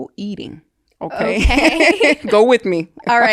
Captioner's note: both laughing